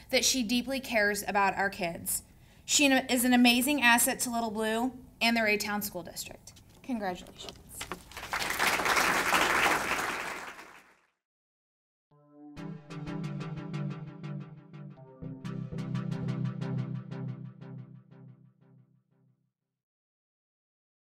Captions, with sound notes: that she deeply cares about our kids. She is an amazing asset to Little Blue and their entire school district. Congratulations! (audience clapping) (dramatic music)